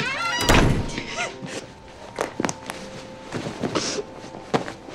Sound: sobbing

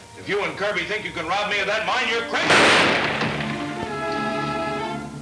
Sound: gun firing; tense orchestra music

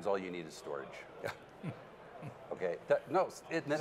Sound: laughing

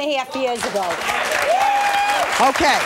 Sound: audience clapping and cheering

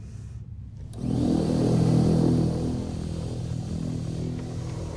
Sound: vacuum sounds

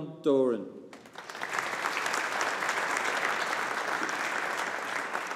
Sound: audience applauding

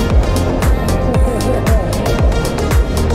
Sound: chuckles

